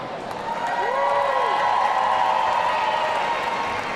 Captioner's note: audience cheering